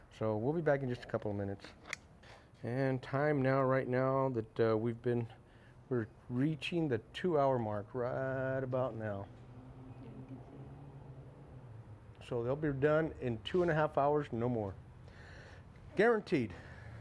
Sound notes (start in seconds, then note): none